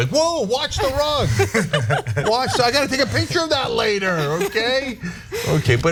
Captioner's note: laugh